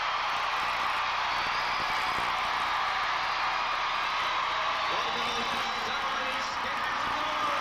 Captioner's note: applause